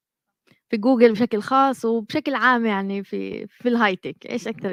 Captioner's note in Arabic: لغة أجنبية